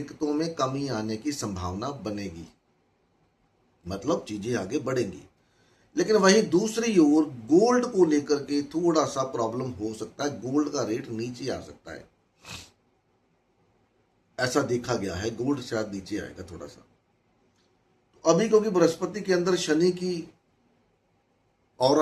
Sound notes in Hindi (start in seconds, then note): 12.3 नाक से की जाने वाली आवाज़